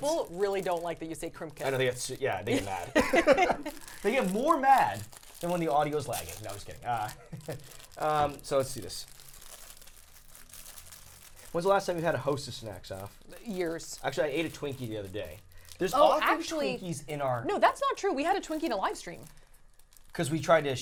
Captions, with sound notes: - People really don't like that you say crimp kits. - Yeah they do not. (Laughing) They get more mad than when the audio is lagging. No, just kidding. So let's see this. When was the last time you had a host of snacks off? - Years. - Actually I ate a Twinkie the other day. There's actually he's in our... - No, that's not true. We had a Twinkie in our live stream.